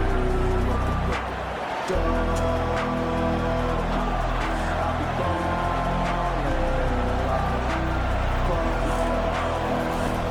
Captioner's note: crowd Noises